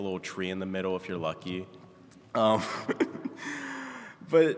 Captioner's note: chuckling